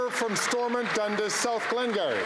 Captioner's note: some Applause